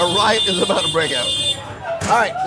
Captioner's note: bike honking